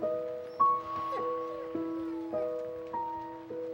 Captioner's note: angus whimpering